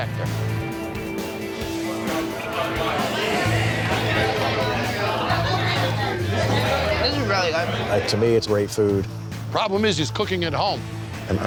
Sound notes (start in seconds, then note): 2.0 crowd chatter